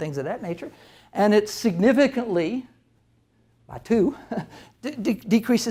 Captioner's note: chuckles